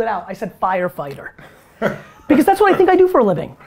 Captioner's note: Tony laughs